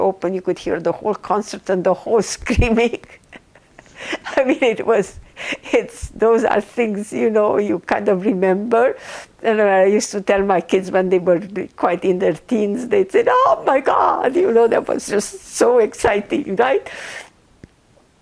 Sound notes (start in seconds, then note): 2.6 laughing